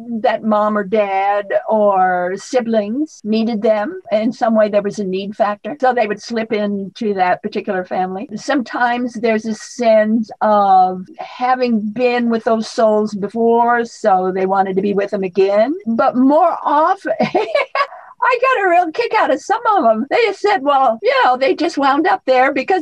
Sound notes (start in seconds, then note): 17.1 laughs